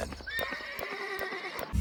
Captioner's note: horse neighing